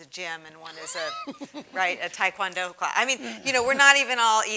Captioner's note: laugh